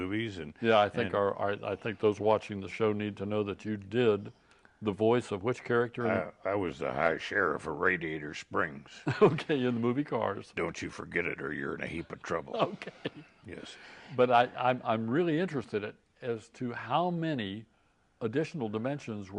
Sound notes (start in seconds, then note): 8.9 laughing; 12.2 laughing